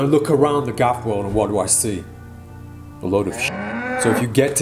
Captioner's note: cow moos